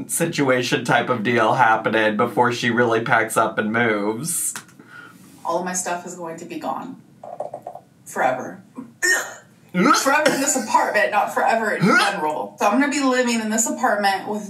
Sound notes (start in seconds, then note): 8.9 grunts; 9.7 mimics grunt; 11.8 mimics grunt